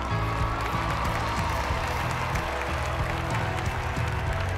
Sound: audience clapping

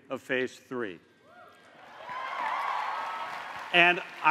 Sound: cheers and applause

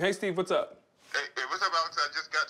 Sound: on phone

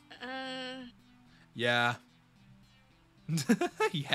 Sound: laughs

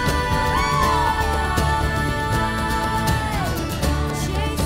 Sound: Merida yelling

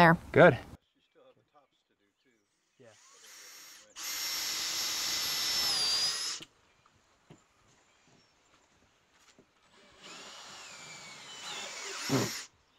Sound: drill whirring, no additional audio

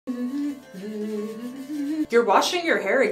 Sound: humming a Quebecois folk tune

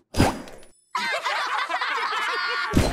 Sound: laughing

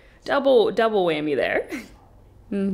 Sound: laughing

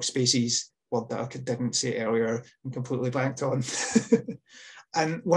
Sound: laughs

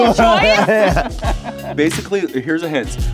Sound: laughing

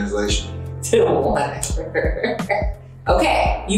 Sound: laughs

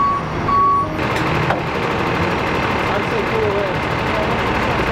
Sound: engine rumbles

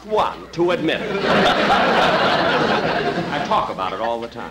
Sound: audience Laughing

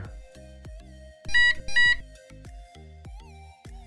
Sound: beep

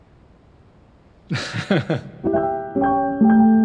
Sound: laughs

